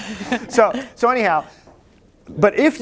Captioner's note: laughter